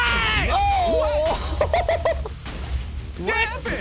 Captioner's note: laughs